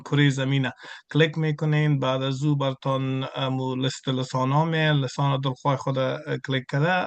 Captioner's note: interpreter speaking in Farsi continued